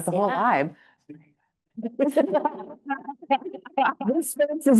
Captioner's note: panelists laughing